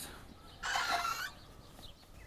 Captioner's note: door screeching